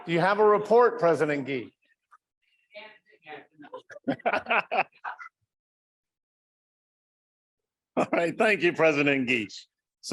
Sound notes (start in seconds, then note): 3.6 laughter